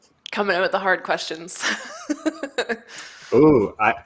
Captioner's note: laughs